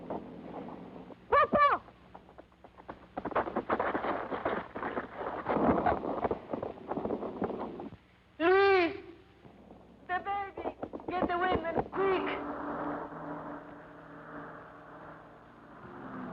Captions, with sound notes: - Papa! - Luis! The baby! Get the women, quick! (car engine revving)